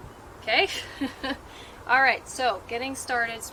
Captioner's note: laughs